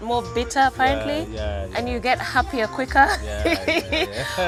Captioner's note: laughter